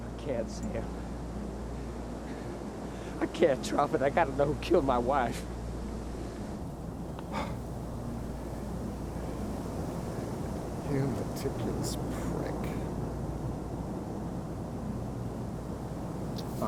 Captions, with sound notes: - I can't, Sam. I can't drop it. I gotta know who killed my wife. (Sam scoffs) - You meticulous prick.